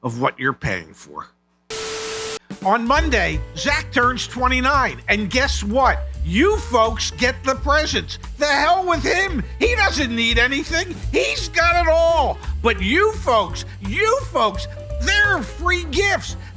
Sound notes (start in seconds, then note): 1.7 static